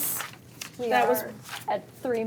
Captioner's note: papers rustle